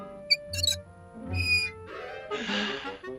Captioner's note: sigh